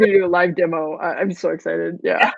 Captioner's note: laughs